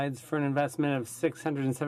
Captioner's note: speaking French